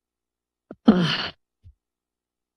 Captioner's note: sighs